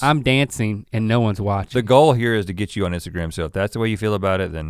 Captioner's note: none